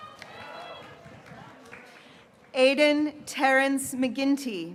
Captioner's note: graduates cheering